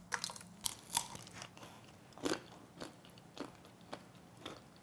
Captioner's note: crunching